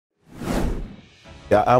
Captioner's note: woosh